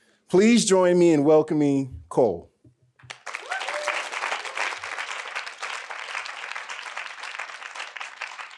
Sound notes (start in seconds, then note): 3.0 audience applauding